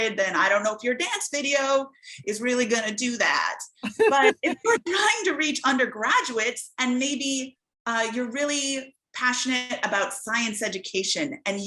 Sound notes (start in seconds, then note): 3.8 laughs